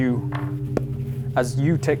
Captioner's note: pop